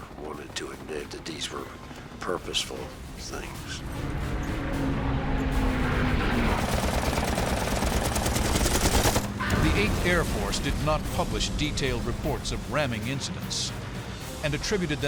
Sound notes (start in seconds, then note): 3.5 air whooshing; 6.6 gunfire